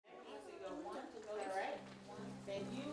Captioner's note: chatter